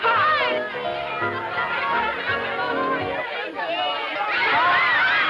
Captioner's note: children yelling